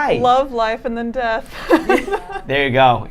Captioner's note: laughing